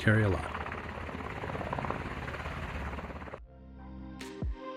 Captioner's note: helicopter whirring; gentle upbeat music